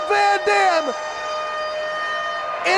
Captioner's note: spectators cheering and applauding